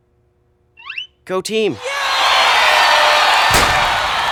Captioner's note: roaring applause